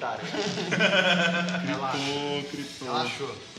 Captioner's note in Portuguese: Risos